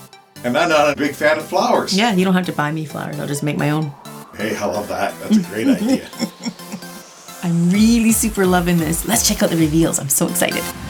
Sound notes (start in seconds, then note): 5.2 laughing